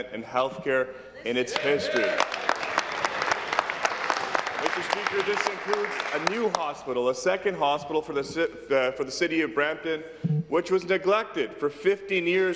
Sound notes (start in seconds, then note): 5.4 applause